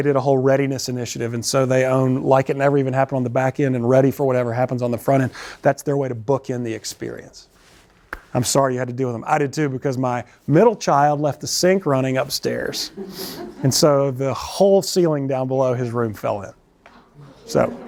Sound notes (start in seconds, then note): 12.8 laughter